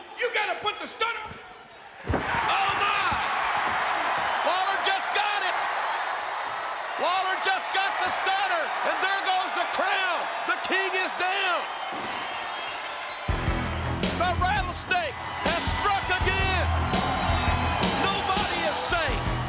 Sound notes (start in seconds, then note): 11.9 glass shattering; 13.3 hard rock music; 19.0 hard rock music